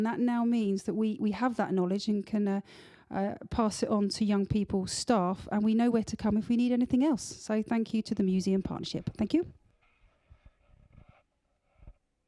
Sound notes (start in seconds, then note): none